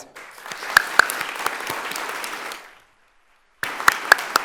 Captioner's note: audience applauding